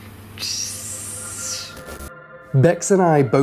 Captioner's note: hissing